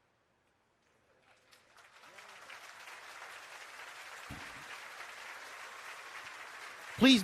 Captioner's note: applause